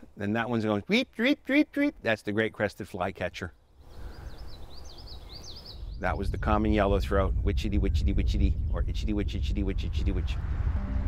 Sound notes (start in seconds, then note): 1.0 imitates bird tweeting; 3.6 bird tweeting